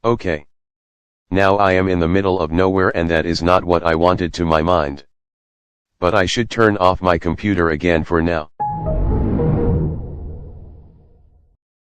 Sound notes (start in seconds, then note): 8.6 Anti Evil Windows XP Shutdown Sound